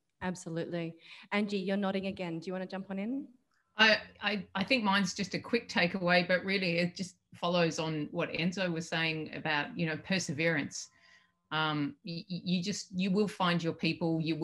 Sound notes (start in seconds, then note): none